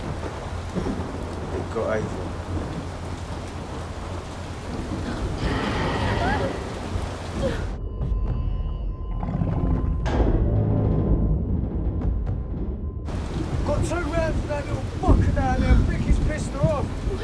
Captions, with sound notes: It got Ava. [growling] Think it pissed her off. What?